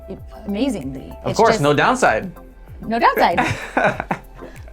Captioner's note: laughs